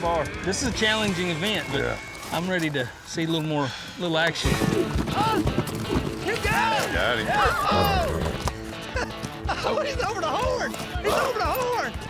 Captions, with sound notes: THIS IS A CHALLENGING EVENT. YEAH. I'M READY TO SEE A LITTLE MORE, A LITTLE ACTION. YOU GOT HIM! GOT HIM. [HORSE NEIGHS] [CHUCKLING] HE'S OVER THE HORN! HE'S OVER THE HORN!